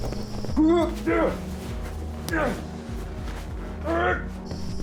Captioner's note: people groaning